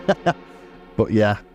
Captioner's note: laughs